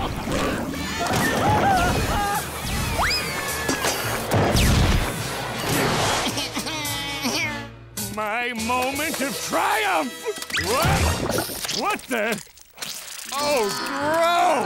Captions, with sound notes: [crying, screaming] [crying] My moment, to triumph! Wha.. What the...? Oh, gross.